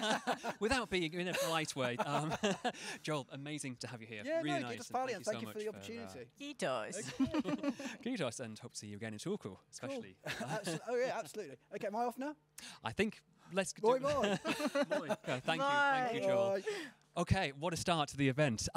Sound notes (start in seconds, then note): 6.5 speaking Finnish; 14.0 laugh